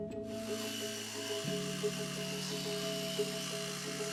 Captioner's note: electric toothbrush buzzes; contemplative music